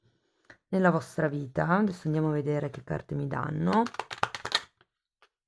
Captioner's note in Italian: Applauso